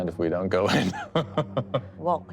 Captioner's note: laughs